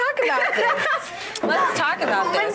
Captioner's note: woman laughs